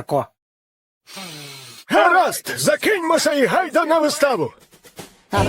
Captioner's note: sniffs